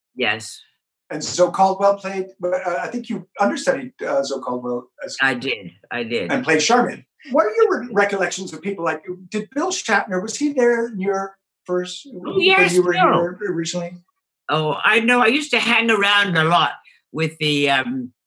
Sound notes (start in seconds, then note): 12.0 murmurs